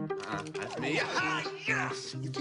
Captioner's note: excited yelling